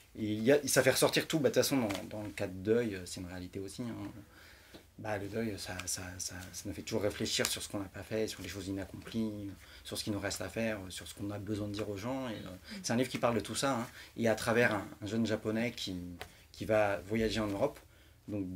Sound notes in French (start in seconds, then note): none